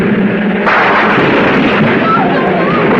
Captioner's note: wall crashing